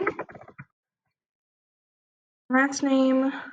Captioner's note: keyboard clanks